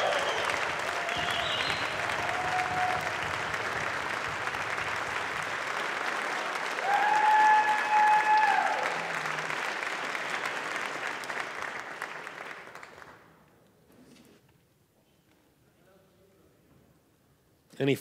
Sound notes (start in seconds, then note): 5.3 cheering; 7.6 applause